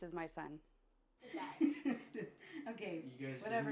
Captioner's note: laughing